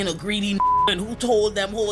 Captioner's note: beep